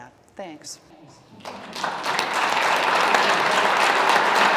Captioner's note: applause